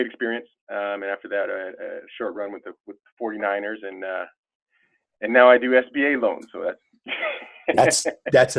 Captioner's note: laughter